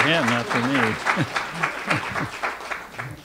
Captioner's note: audience applause